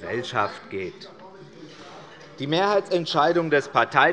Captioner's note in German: Beifall des Abg